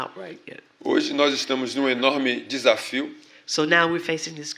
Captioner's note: speaking portuguese